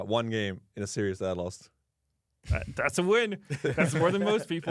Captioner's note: laughs